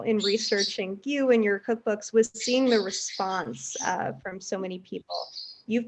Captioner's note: birds chirp